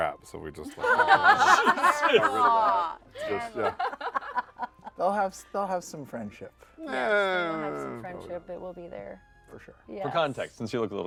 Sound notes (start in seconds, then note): 3.2 laughter; 7.1 unsure groans